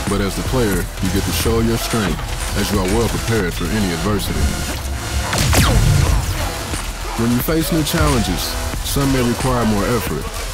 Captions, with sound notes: but as the player you get to show your strength. As you are well prepared for any adversity [MASSIVE BLAST] When you face new challenges, some may require more effort.